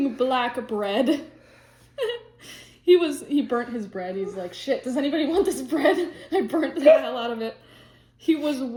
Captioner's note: laughs